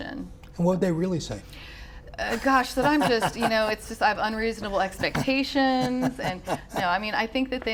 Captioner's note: laughs